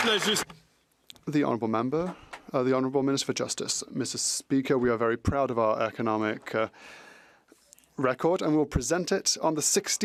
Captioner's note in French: applaudissements